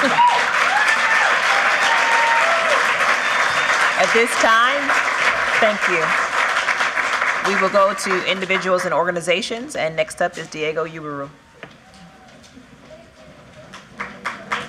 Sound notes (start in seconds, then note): 3.4 applause